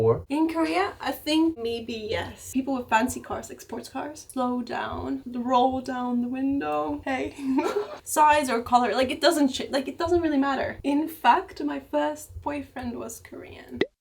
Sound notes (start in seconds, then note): 7.3 laugh